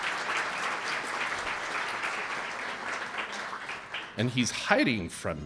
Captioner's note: audience applauding